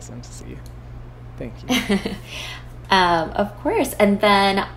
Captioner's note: chuckles